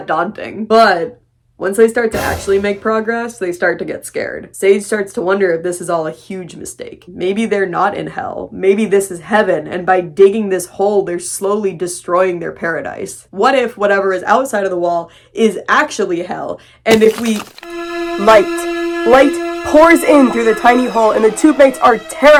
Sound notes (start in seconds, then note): 2.1 scary sound effect; 16.9 sound of rocks crumbling; 17.4 tense music